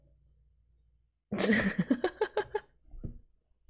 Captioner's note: laughs